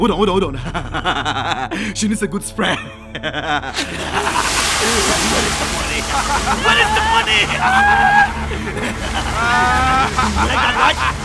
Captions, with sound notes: - Hold on, hold on. (laughing) She needs a good spray. (water spraying) Where is the money? (ominous music) (laughing maniacally)